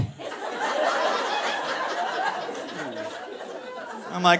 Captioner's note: audience laughing